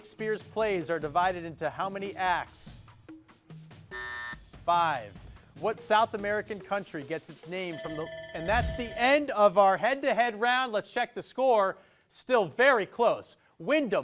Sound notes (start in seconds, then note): 3.9 buzzer buzzes; 7.7 alarm rings